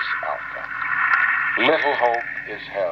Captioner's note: crepitação estática